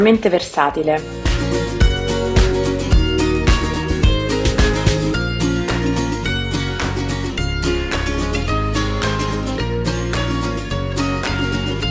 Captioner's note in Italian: Applauso